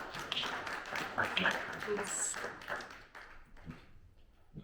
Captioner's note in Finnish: Aplodeja